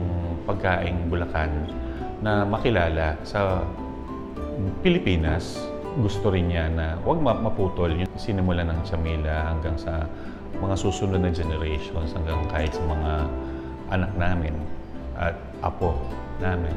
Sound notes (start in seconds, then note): none